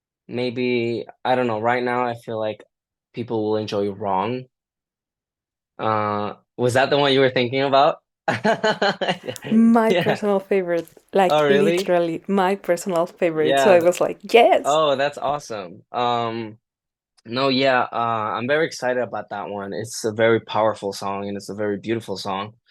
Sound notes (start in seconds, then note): 8.2 laughter